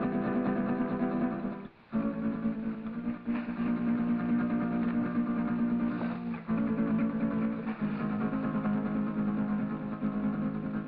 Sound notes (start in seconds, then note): none